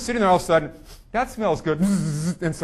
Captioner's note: sniffing